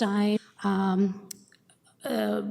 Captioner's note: audio drop